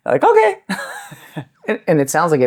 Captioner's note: laughs